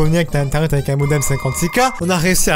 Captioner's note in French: bruit d'une connexion "dial-up